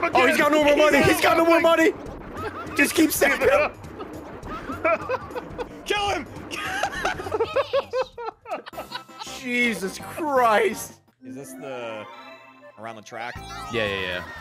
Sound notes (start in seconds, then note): 6.5 laughs